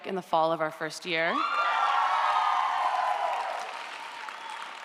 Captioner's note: audience applauds & cheers